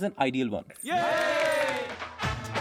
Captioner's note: clapping in ignorance